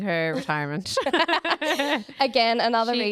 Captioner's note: both laughing